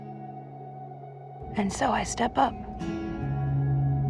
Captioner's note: voiceover